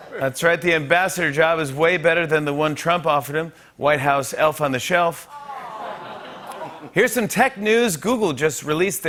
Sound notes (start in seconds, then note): 5.4 laughter